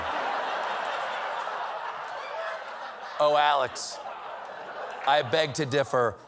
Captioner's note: laughter